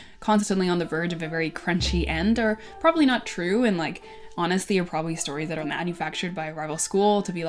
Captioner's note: none